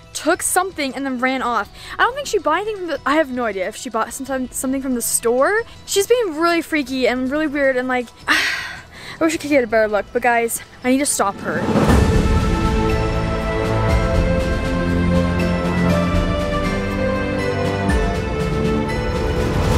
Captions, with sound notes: took something, and then ran off. I don't think she bought anything- I have no idea if she bought something from the store. She's being really freaky and really weird and like, (sigh) I wish I could get a better look. But guys, I need to stop her. (suspenseful music)